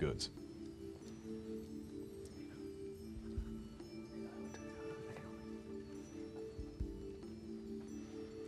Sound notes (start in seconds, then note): 4.2 whispering